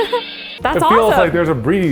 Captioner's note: laughs